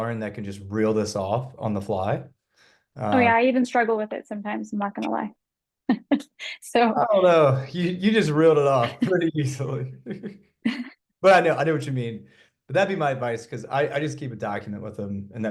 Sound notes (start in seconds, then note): 7.0 chuckles